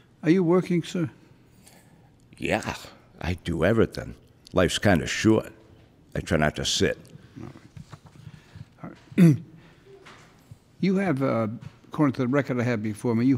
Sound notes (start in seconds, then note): 8.8 clears throat